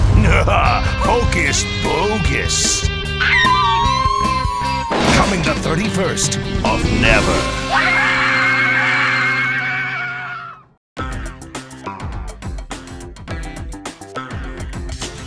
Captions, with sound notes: Hocus Bogus! [howling] Coming the 31st of never! - Ahh! - Ahh!